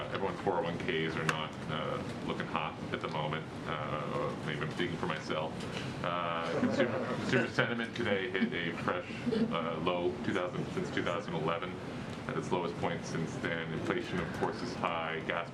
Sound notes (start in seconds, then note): 6.5 laughter